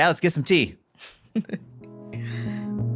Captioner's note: chuckles